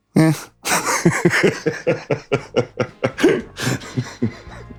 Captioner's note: laughing